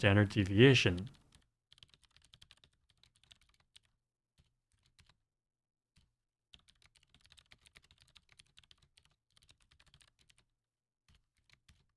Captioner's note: typing